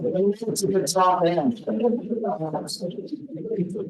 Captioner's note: attendees chattering